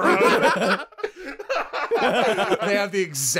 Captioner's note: laughter